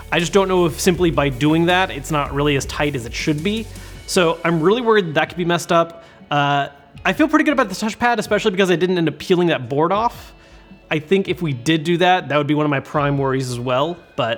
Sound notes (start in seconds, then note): none